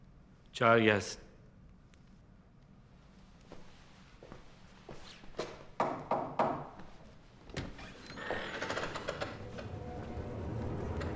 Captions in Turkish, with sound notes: Çağır gelsin. (Kapı tıklama sesi)